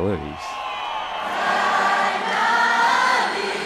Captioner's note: cheering